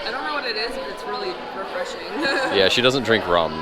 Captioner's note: laughs